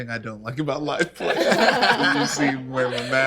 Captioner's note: laughing